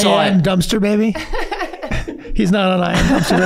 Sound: laughing

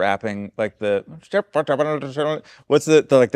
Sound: mumbles

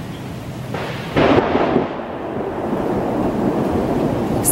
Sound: thunder claps

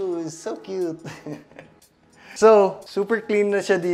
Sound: chuckles

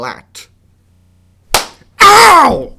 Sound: slap

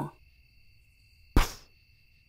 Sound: poof!

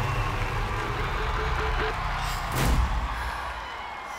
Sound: crowd cheers

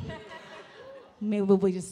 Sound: audience laughing

